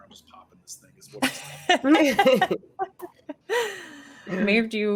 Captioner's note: laughing